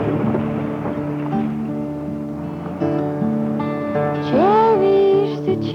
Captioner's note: wood bridge boards clattering; vehicle engine sound